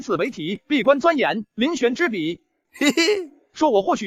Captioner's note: chuckles